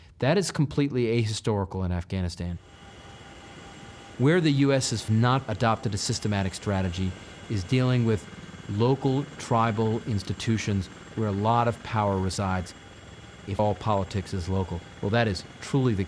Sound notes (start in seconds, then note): none